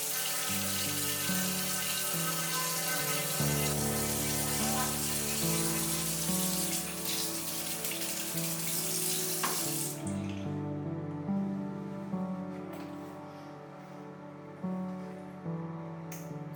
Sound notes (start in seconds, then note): 0.0 electric toothbrush sound; 0.0 water flowing; 7.0 running water